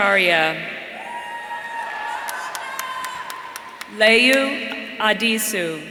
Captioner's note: audience cheering; audience applauding